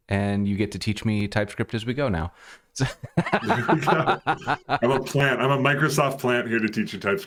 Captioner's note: laughter